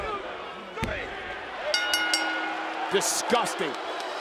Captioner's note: bell rings